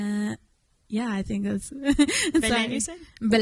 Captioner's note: chuckles